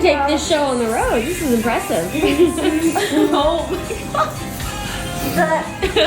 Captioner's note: laughs